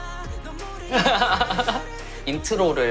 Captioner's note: hahaha